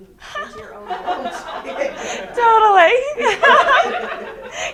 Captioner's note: laughs; students laughing